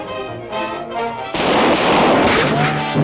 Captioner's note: gunshots